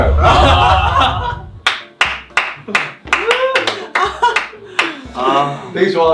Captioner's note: bursts with laughter